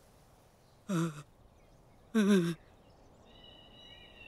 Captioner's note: Grunts